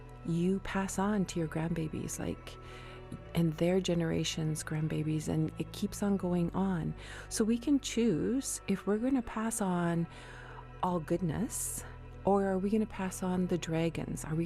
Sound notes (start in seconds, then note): none